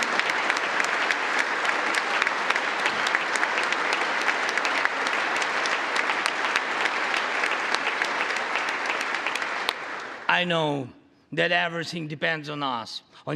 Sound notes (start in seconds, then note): 4.9 congress applauding